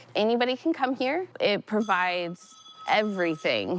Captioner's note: service bell rings